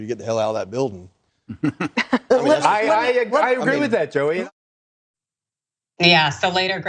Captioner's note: laugh